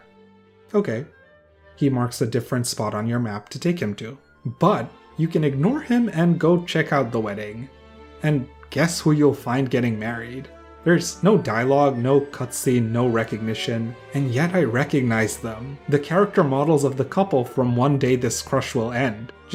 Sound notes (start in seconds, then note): none